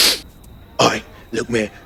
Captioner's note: sniffs